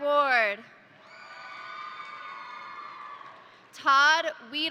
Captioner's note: crowd cheering; crowd applauding